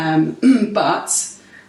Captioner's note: clears throat